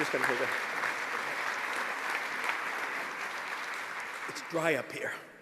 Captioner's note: applause